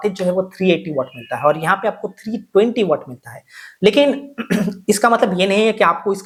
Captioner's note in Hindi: गला साफ़ करने की आवाज़